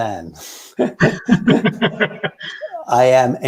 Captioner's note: both laughing